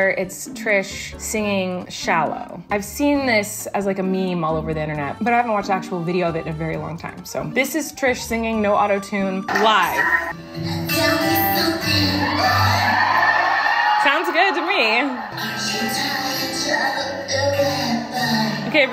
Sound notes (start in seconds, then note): 11.8 audience cheers